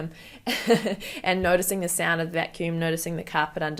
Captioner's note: chuckles